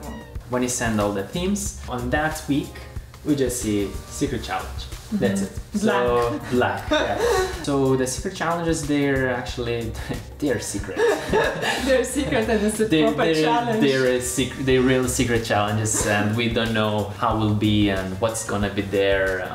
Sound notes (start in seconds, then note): 5.7 laughs; 10.9 both laughing